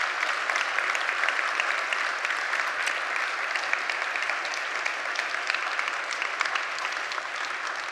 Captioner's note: congregants cheer and applaud